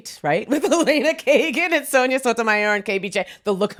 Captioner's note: laughs